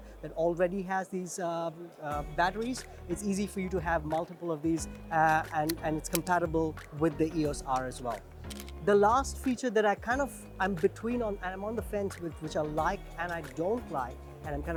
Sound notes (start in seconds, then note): 7.7 camera clicks